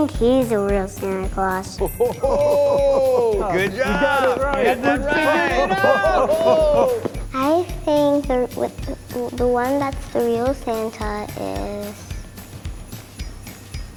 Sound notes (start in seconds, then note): 6.9 all cheering